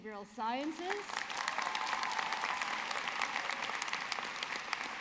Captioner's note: audience clapping